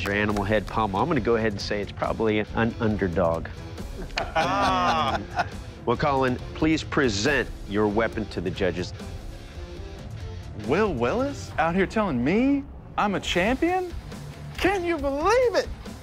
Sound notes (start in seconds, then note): 3.9 laughter